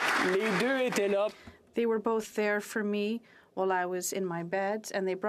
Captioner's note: applause